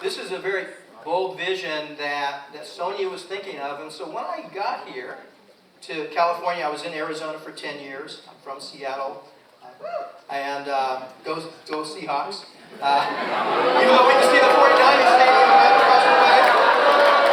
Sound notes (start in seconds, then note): 12.8 audience laughs and boos